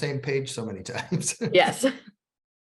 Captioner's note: laughter